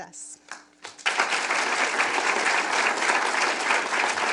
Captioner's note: audience clapping